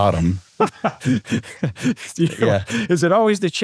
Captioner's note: laughs